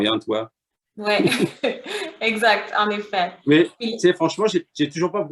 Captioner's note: laughter